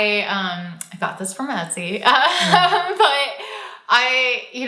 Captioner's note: laughs